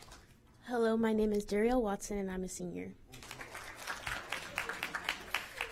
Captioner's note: applause